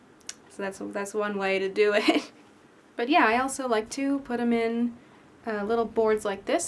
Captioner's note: chuckle